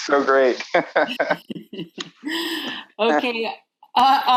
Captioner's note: laughing